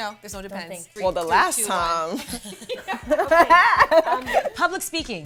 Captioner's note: laughs